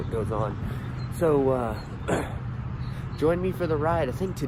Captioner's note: clears throat